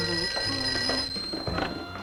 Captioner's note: phone ringing